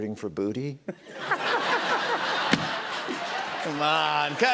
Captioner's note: laughter